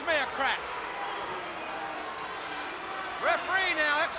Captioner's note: crowd chatter